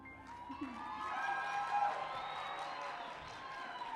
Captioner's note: cheering and applause